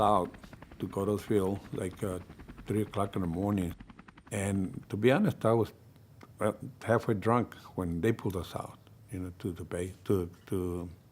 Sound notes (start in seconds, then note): none